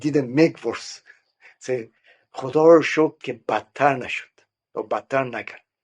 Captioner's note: speaking Persian